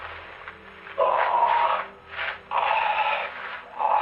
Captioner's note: groaning